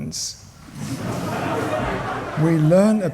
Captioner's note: laughter